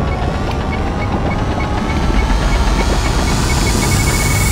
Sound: ticking faster

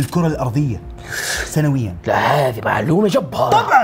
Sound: gasps

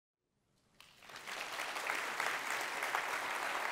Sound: applause

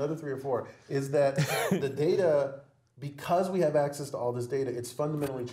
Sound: laugh

